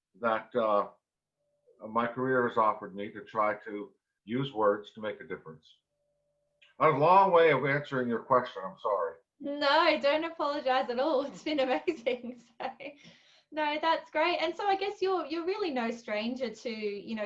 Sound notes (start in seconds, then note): 11.7 giggles